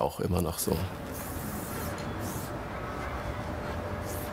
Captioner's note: spraying sound, traffic noise